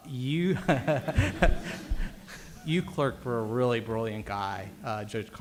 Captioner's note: laughs